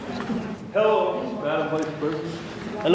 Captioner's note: deep voice